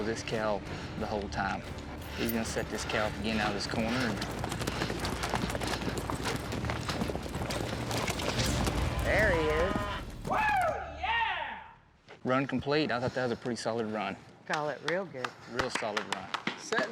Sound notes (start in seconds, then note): 5.5 hoof beats; 14.5 clapping